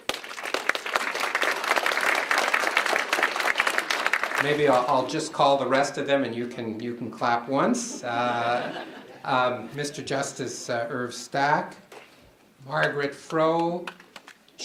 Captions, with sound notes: (applause) Maybe I'll just call the rest of them and you can clap once. (laughing) Mr. Justice Irv Stack, Margaret Fro, Sheila Bristow,